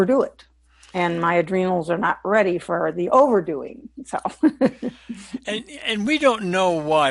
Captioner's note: laughs